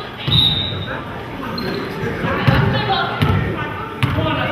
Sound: whistle blows

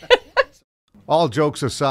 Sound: laughs

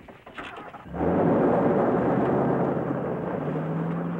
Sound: engine revs

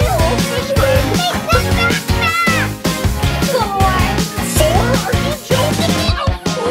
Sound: shouting

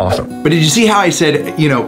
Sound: screen swooshes

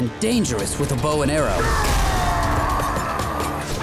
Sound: grunting

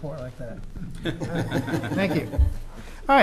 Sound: laughter

